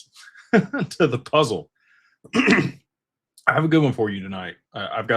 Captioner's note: clears throat